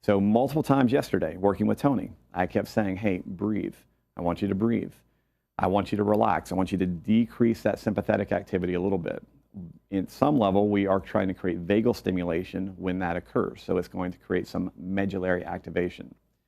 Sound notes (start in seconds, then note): 5.0 breathe